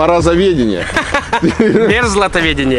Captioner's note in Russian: смех